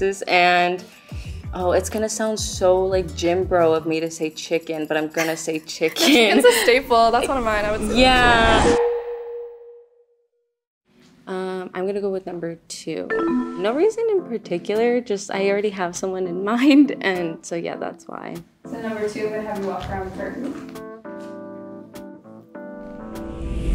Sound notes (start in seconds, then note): 8.9 bell dings; 13.1 descending ding; 20.8 suspenseful music; 22.9 transition whooshing